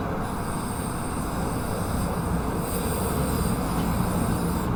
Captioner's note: paint sprays